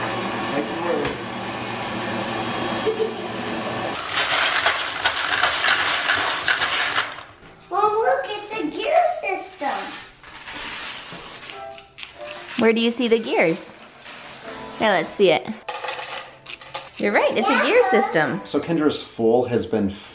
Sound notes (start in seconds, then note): 2.8 giggles